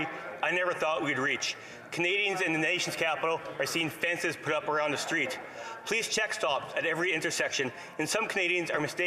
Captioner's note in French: voix de l'interprète